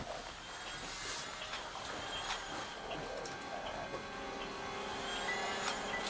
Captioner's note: bubble machine buzzing; ominous music